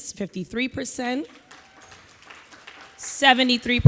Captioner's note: audience applauding